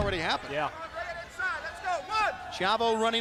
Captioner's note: crowd chatter